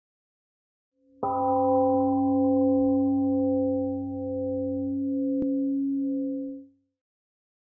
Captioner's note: temple gong rings, then fades out